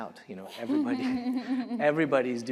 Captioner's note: laughter